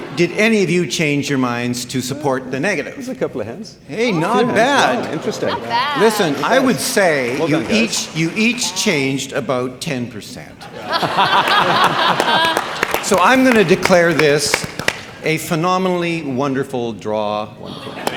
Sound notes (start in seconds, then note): 10.9 audience applauds